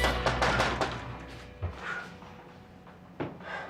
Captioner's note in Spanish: Toques en la puerta